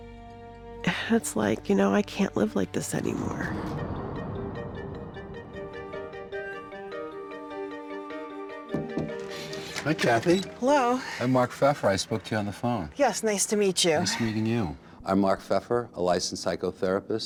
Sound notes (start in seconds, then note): 8.7 knocking